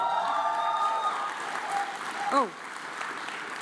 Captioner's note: audience cheers and applauds